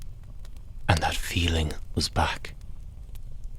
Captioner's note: tense Hushed Tone